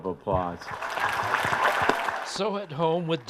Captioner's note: audience applauds